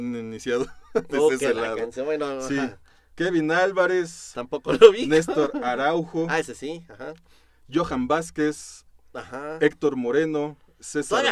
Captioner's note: laughter